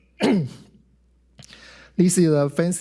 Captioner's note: clears throat